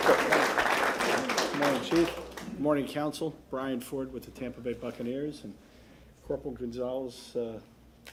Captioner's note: applause